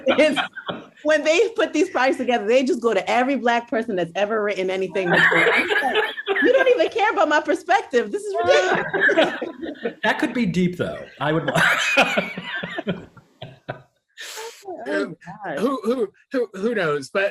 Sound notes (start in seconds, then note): 5.0 little laughs; 8.0 panelists laugh; 11.6 laughs